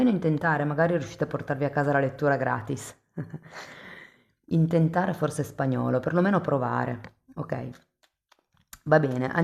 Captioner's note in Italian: risate